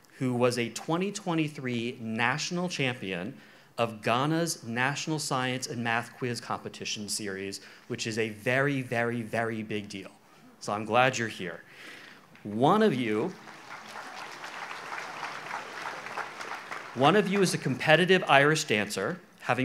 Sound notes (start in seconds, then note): 13.0 audience applauds